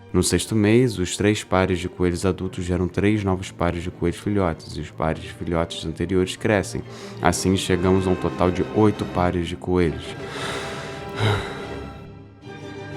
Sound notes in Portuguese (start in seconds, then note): 10.1 suspiro; 12.0 música clássica